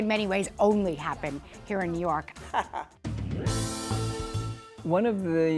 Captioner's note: laughs